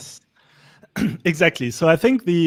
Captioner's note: coughs